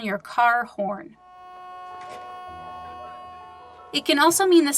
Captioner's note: car honking